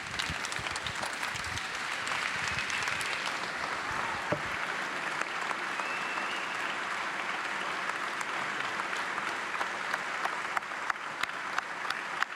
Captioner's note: applause